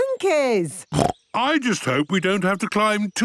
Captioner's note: snorts